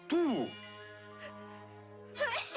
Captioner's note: cough cough